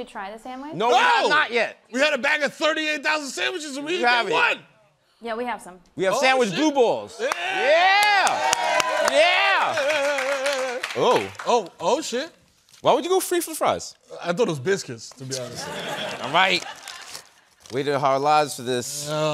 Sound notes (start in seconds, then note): 7.2 applause; 15.4 laughter